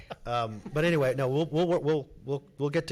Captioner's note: laughing